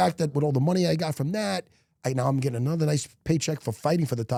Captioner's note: none